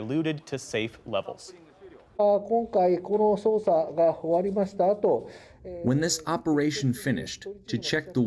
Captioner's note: through translator